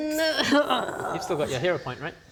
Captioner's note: hurrrggrhghghh